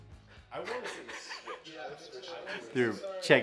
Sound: laughs

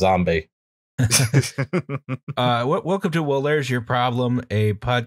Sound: laughter

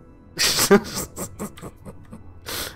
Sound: laughs

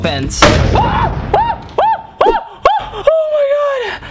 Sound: screaming

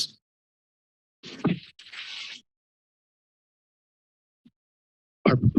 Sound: pause

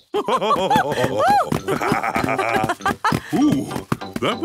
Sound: both laugh

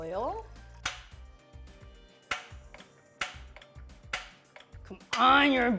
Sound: stove top clicking

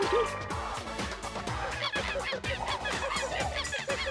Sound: monkey cries

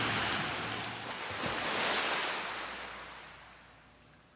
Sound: waves Crashing

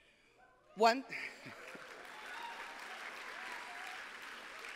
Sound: applause; cheers

